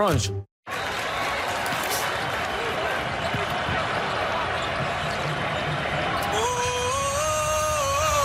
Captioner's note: crowd cheering